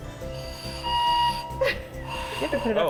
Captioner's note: ghost whistle blowing